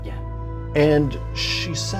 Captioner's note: none